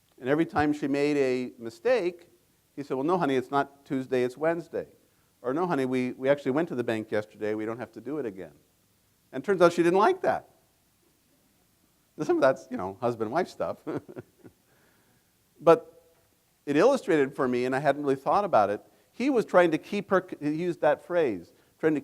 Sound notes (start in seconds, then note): 13.8 laughs